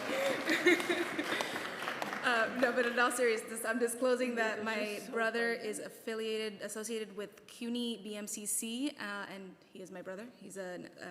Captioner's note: laughter